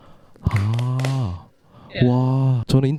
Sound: applause

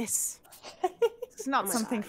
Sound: game Master laughs

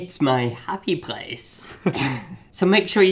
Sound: laughing

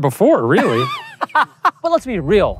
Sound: laughing

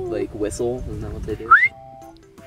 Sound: whistles

